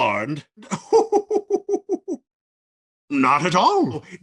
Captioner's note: laughing